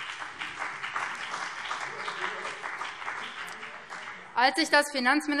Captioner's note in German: Beifall BÜNDNIS 90/DIE GRÜNEN